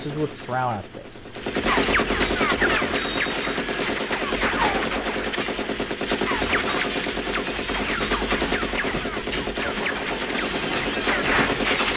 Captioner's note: repeated machine gun fire